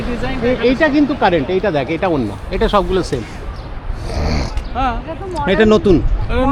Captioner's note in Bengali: নাক ডাকা